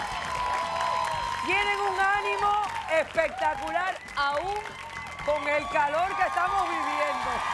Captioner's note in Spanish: Aplausos